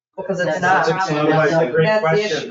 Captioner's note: people chattering